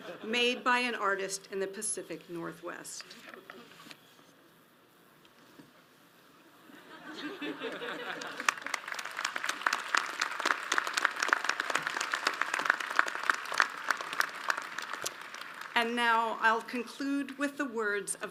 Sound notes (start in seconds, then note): 2.7 audience applauds